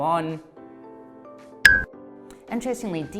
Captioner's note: chiming